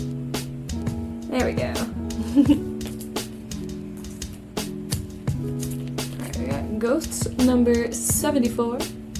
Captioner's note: laughs